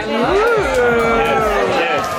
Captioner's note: guests cheering